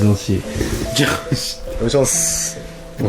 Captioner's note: laughter